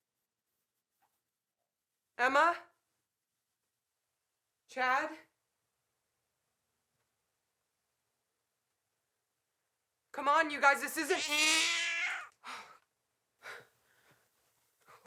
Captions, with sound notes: - Emma? Chad? Come on, you guys, this isn't... (cat screeching) Oh. (panting)